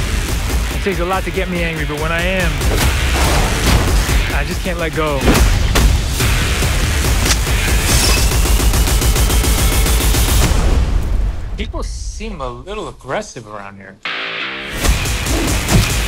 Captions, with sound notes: - It takes a lot to get me angry, but when I am, (dramatic music) I just can't let go. (dramatic music) (explosion booming) People seem a little aggressive around here. (upbeat music)